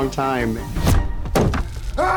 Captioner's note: thumping